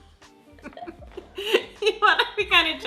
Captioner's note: laughs